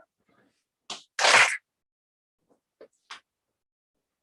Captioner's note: clap